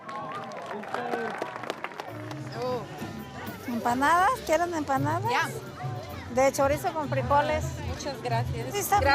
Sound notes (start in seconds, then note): 0.0 spectators clapping; 3.7 speaking in foreign language